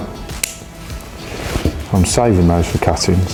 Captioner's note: scissors snip